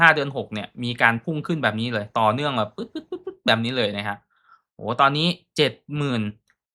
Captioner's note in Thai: เสียงหัวเราะ